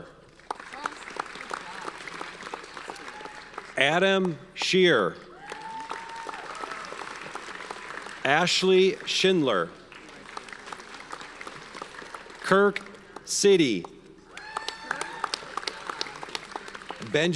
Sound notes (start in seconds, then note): 0.3 audience applauds; 5.2 audience cheers and applauds; 10.0 audience applauds; 14.2 audience cheers and applauds